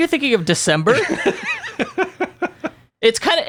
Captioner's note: laughing